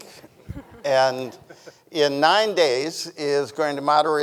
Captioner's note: people chuckling